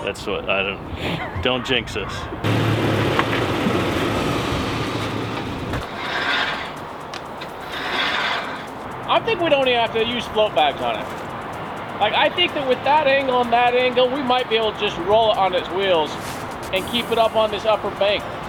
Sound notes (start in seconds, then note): 2.4 engine revs; 6.1 winch whirs